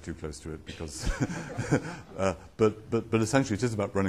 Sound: laughs

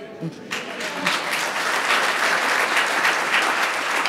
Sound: audience applauds

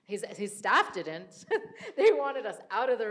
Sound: laughs

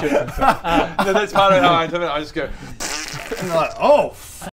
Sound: pffffft

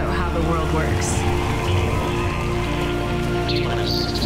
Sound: applause

